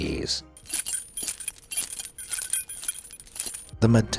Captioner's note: keys clinks and clanks